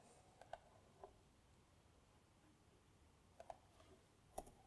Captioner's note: keyboard clicking; mouse clicking